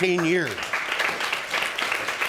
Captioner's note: audience applauding